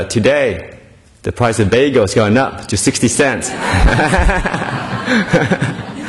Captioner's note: laughter